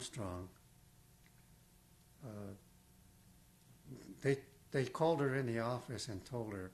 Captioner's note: pauses for 3 seconds